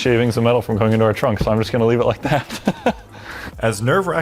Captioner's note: laughs